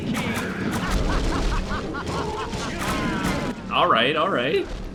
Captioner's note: maniacal Skeleton Laughter